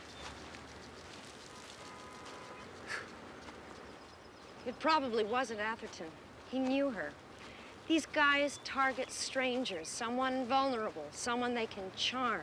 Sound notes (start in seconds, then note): 2.7 laughs